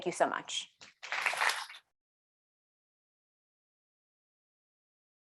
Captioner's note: audience applauding